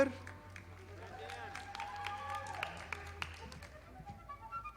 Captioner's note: audience applauding